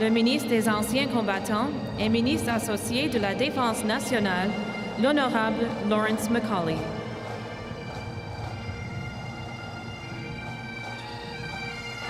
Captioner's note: speaking French